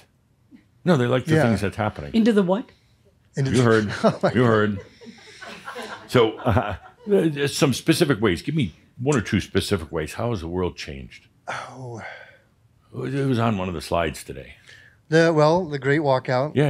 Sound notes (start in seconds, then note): 3.7 chuckling; 6.6 a few chuckles